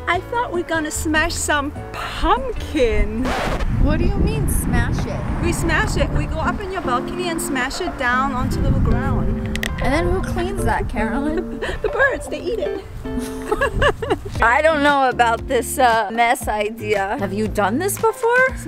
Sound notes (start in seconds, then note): 13.2 laughter